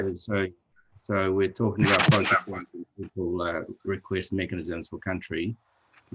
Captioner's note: static crackles